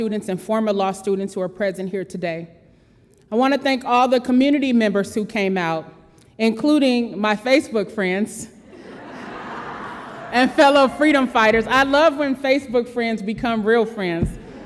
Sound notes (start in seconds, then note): 8.6 audience laughs